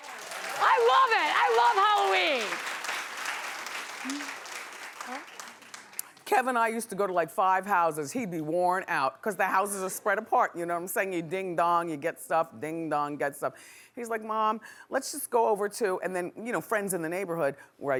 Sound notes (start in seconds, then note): 0.0 clapping